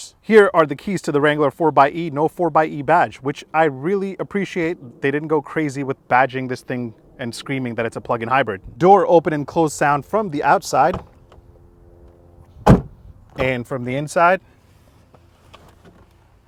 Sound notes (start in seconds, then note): 12.6 door bangs